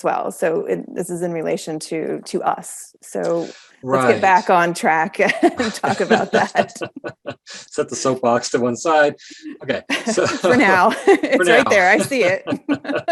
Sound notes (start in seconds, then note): 5.4 both laughing; 9.4 laughing; 11.8 both laugh